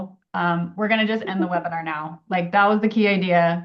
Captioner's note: laughs